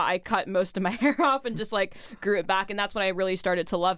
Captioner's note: laughs